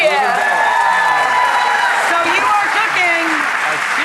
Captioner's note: audience cheering